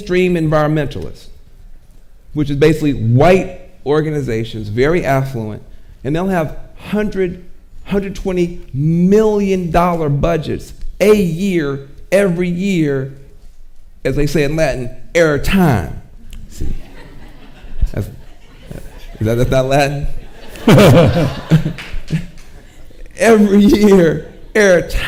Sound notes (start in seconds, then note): 16.3 audience laughing; 20.7 and audience chuckles